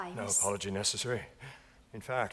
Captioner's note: none